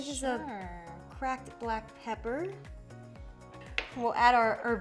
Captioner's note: container thudding